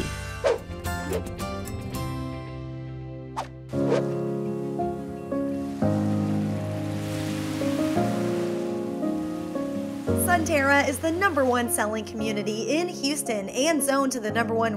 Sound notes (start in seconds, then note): 1.3 whoosh; 4.4 waves lapping onshore